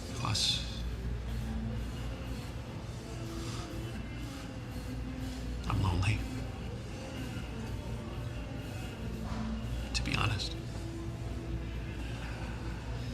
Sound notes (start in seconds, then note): none